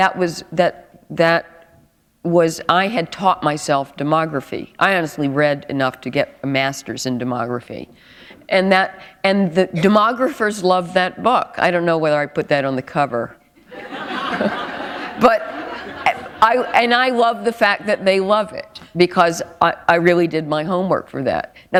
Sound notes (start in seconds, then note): 13.6 laughter